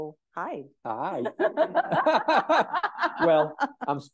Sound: both laughing

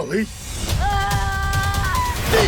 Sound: Orion screaming

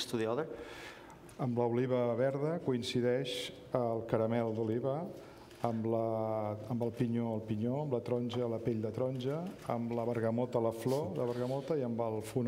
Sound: speaking catalan

